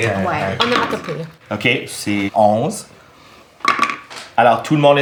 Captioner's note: rolling dice